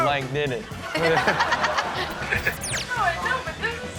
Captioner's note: Chanel laughs